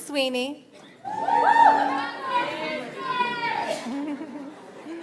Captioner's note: audience applauds